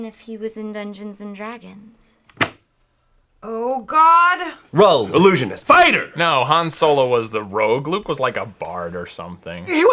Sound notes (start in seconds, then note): 2.3 book falling on table